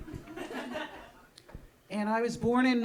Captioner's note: audience laughing